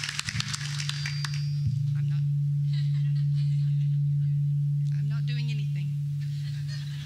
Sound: speakers make a disruptive ringing noise

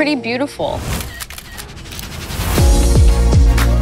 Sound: camera shutter clicking; upbeat music plays

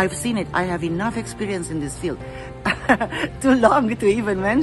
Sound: chuckles

